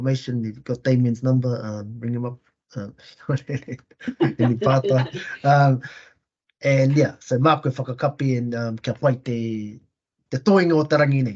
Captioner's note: Māori language spoken